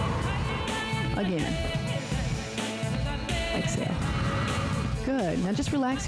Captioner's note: breath hisses; breath hisses